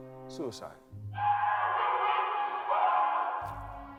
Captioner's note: screaming